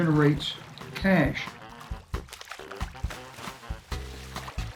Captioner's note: water splashing